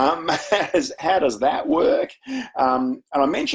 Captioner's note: chuckles